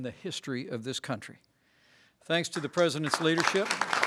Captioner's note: applause